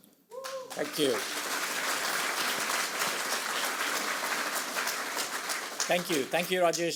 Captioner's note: audience applauds